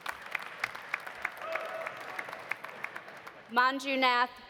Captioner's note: audience applauding; audience cheering